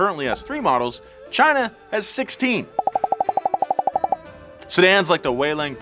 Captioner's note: pops